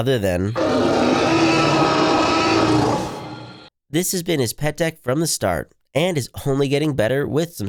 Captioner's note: enter dino raur sound effect